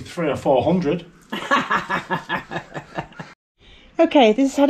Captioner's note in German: Gelächter